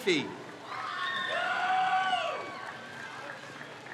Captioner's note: crowd cheers